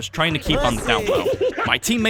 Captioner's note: "Pussy!" *laughter